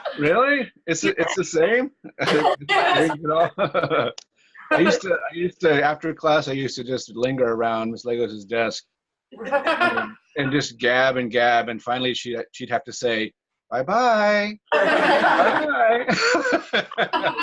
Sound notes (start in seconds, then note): 9.4 laughs; 15.9 laughter